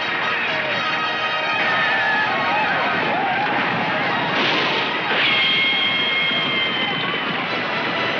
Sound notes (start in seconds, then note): 4.2 gunshots firing